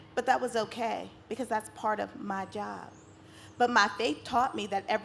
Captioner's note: none